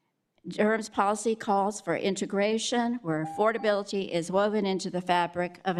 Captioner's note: beep